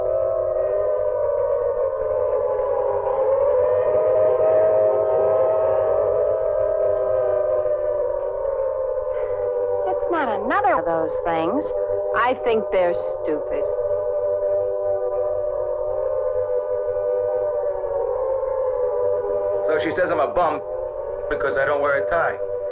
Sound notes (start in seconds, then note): 13.9 sirens blaring